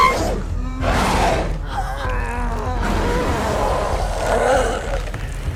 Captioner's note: gasps; Brad growling and moaning